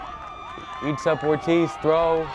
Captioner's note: crowd cheers